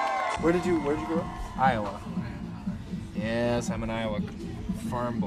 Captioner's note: cheers